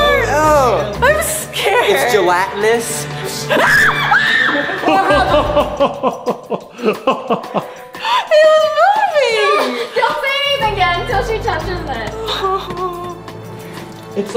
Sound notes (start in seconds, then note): 3.6 terrifyingly screams; 4.5 jolly laughter; 12.3 whines fearfully